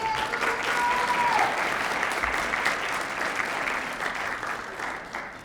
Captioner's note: applause